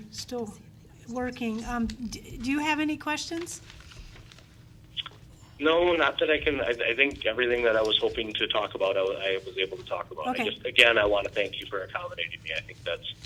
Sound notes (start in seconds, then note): none